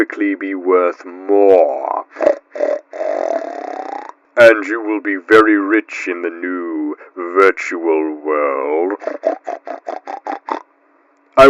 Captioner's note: pig Snorts